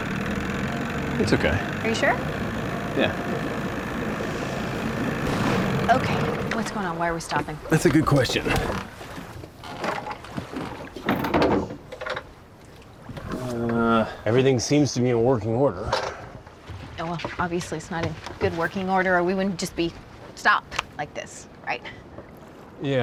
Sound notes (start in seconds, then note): 0.1 engine sputters; 4.9 engine backfires; 9.7 lid clatters open